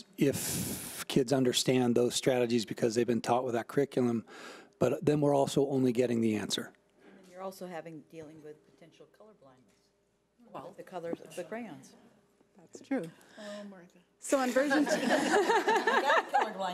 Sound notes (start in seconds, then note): 14.8 laughing